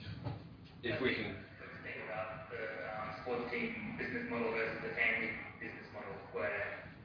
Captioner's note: audio distorts